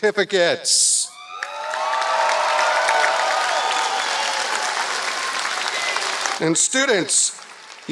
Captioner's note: applause